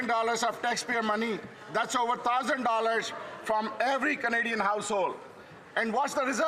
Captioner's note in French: voix de l'interprète